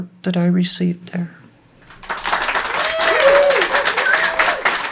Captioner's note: clapping and cheering